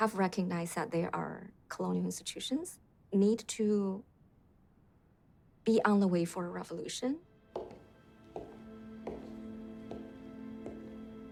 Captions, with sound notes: ...have recognized that they are colonial institutions, need to... be on the way for a revolution. [footsteps echoing] [dramatic music]